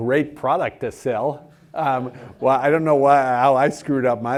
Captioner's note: laugh